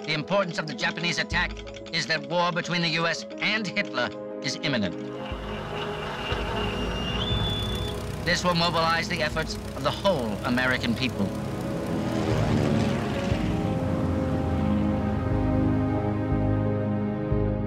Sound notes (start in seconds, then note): 12.2 plane engines roaring; 14.3 somber music